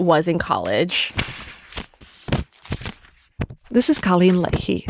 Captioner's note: pages turning